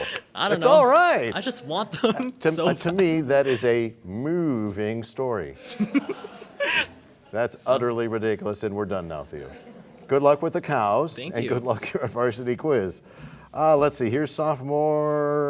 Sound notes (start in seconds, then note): 5.6 laughter